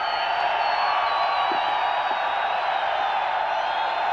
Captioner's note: crowd cheering